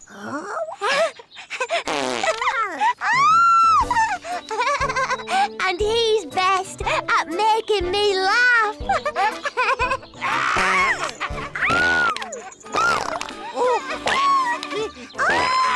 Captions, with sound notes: - (passes wind repeatedly) - (giggles) (squeals) And he's best at making me laugh! (laughs) - (baby continues to pass wind) - (all laugh)